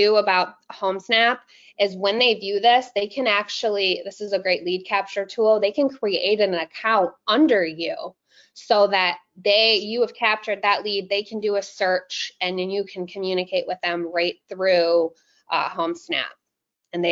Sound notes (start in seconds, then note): none